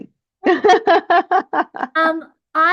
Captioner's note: laughs